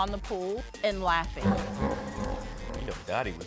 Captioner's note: warped laughter